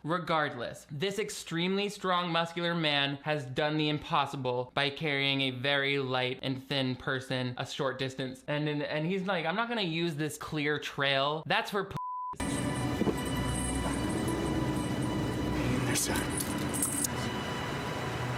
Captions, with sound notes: Regardless, this extremely strong muscular man has done the impossible, by carrying a very light and thin person a short distance. And he's like, "I'm not gonna use this clear trail, that's for (beep)." (dramatic music) - Here, son.